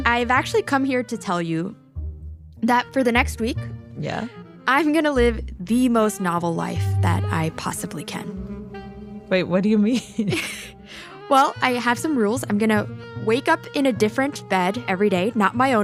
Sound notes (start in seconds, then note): 9.8 laughs